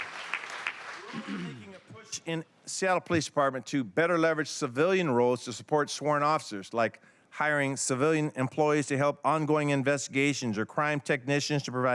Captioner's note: applause